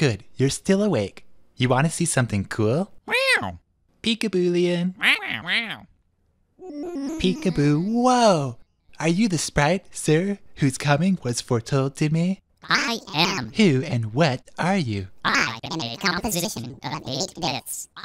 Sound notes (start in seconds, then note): 5.0 squawking excitedly; 5.0 squawk